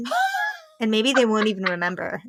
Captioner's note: laughing